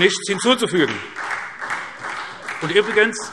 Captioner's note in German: Beifall SPD